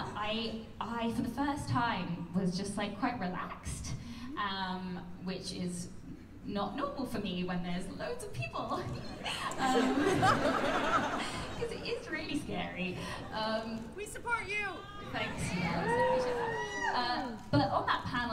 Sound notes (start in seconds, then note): 9.0 laughter